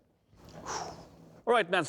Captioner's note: exhales